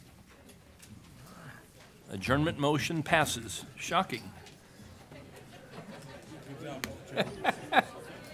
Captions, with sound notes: Adjournment. Motion passes. Shocking. [LAUGHTER]